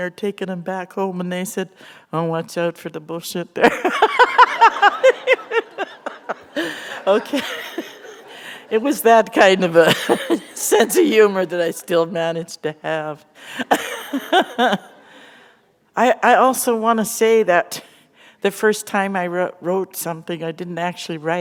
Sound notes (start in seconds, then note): 3.6 laughter; 9.0 chuckle; 13.6 laughter